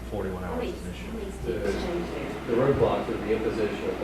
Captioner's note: chattering